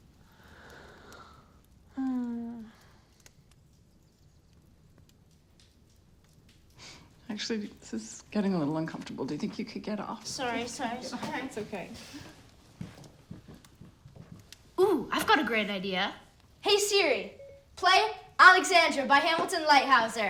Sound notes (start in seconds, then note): 1.9 mom sighing